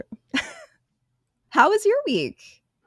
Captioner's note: laughing